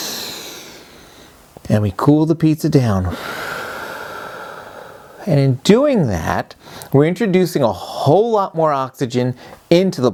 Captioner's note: breathes out; breathes in; breathes out